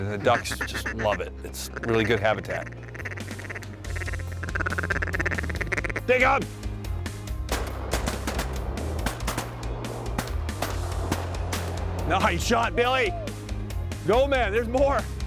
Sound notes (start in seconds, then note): 2.8 duck calls; 7.4 gun shots